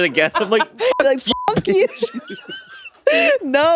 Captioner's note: beep; all laughing